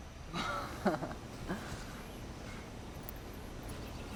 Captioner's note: woman giggling